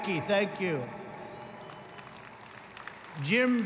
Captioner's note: applause